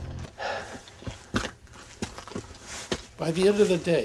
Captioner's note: panting